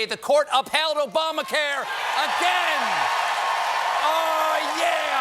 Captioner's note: cheers and applause